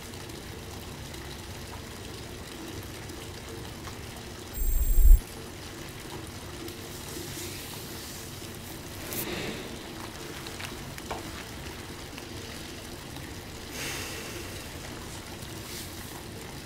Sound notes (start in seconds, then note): 4.5 high pitched sound